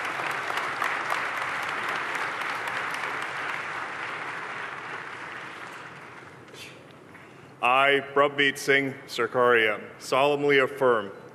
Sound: applause

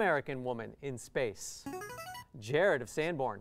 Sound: player buzzer

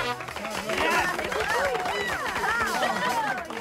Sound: aplausos

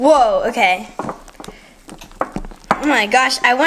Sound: bowl moving

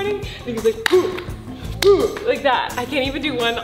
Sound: grunting and clapping

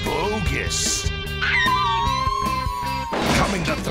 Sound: howling

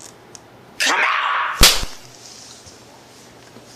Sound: slap

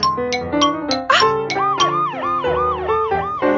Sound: police siren

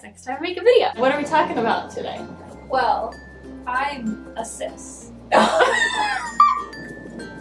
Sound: laughing

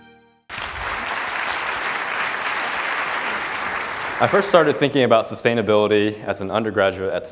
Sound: applause

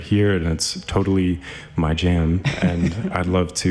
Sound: laughs

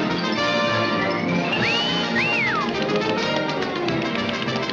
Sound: whistles

